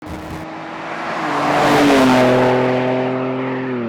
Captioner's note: truck engine roaring